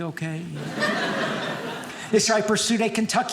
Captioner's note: audience laughing